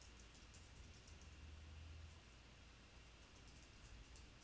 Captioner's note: keyboard tapping